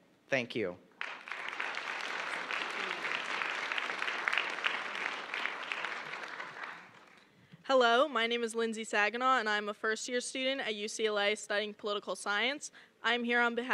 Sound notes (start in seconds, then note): 6.3 applause